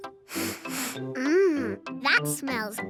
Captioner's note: sniffs